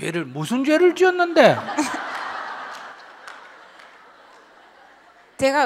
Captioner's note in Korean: 질문자와 청중 웃음